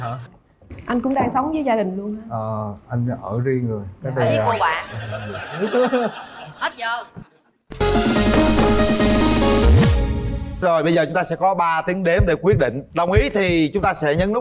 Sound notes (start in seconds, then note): 4.8 laughter